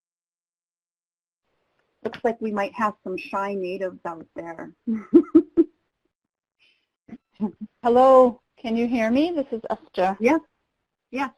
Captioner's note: laughs